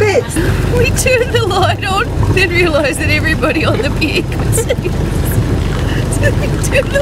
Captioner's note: laughing